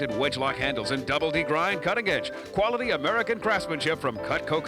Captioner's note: none